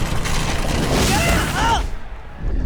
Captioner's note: grunting